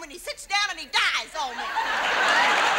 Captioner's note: audience laughs